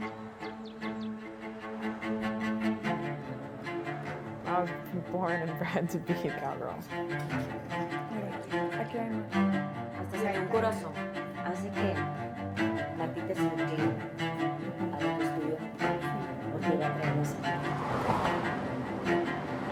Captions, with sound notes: - I was born and bred to be a cowgirl. - Yes, okay. (woman speaking Spanish) (orchestral string music)